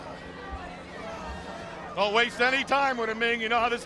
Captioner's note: crowd chatter